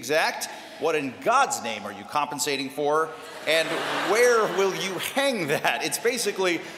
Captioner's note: laughter